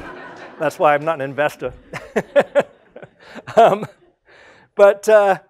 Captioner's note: laugh